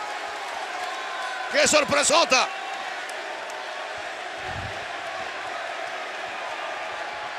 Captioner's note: applause